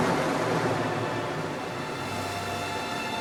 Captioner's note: waves crashing